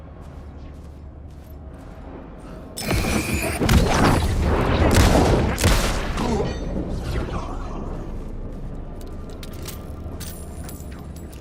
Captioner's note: dramatic music; gun firing